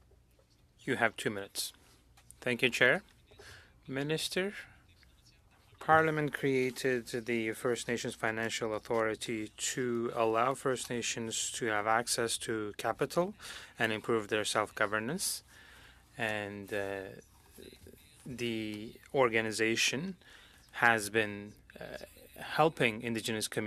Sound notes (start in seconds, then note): 6.5 speaking French